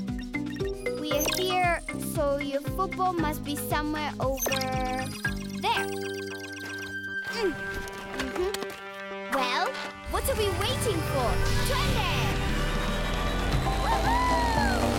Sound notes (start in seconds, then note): 10.1 engine revving; 10.2 exclamation; 13.8 engine revving